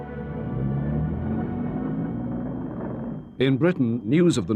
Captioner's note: engine revving